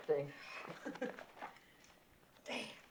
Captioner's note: chuckles